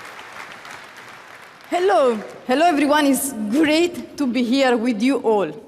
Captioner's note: applause